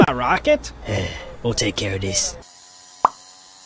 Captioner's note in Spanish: suspiro